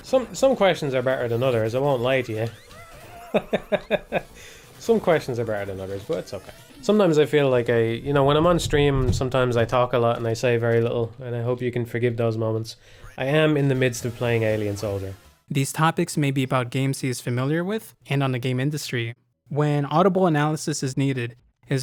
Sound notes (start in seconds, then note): 2.6 laughing